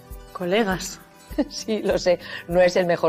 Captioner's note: laughs